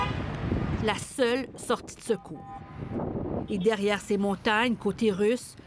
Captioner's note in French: coup de klaxon